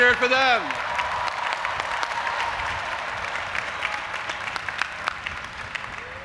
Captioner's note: audience applauding and cheering